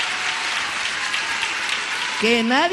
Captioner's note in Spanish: aplausos